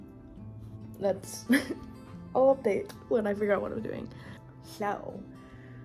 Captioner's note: laugh